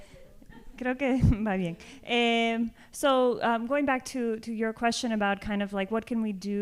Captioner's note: speaking spanish